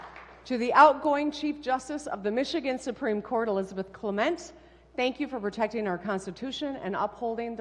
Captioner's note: applause